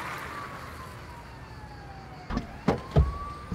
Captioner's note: sirens wail